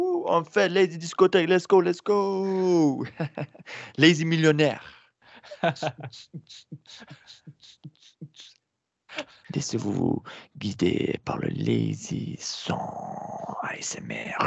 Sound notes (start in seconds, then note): 5.5 makes beat box sounds xD; 12.4 making ASMR noises